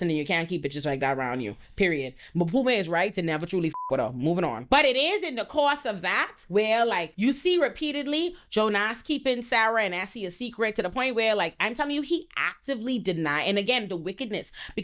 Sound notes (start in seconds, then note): 3.7 beep